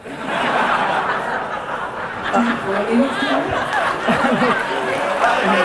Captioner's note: audience laughter